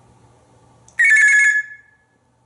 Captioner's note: telephone sound